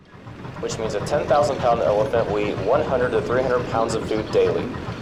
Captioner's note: train audio playing